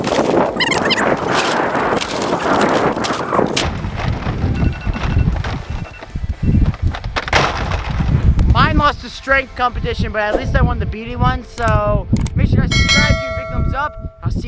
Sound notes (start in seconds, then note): 4.7 alarm rings